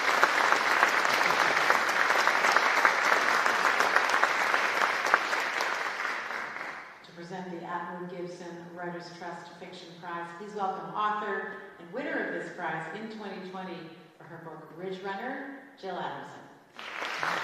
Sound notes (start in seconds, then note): 0.0 applause